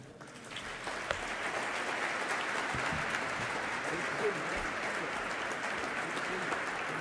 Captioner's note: applause